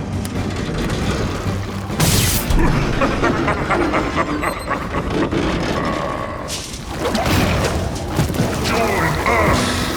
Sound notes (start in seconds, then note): 2.2 Steenium cackles; 2.2 electricity buzzes; 7.1 intense music continues